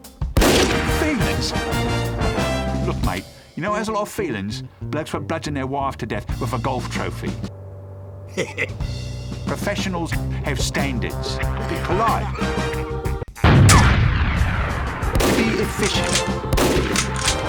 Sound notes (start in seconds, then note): 8.3 BLU Sniper laughs nervously; 10.0 BLU Sniper Laughing; 12.2 BLU Sniper Grunts in pain